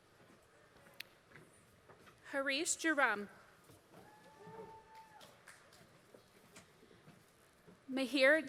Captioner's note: applause